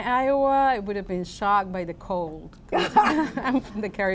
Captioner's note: laughs